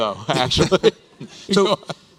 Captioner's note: chuckles